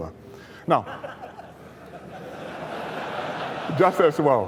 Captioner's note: laughter